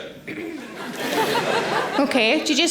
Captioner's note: audience laughing